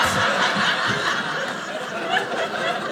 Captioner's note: audience laughing